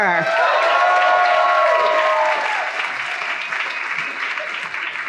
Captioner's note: audience applauding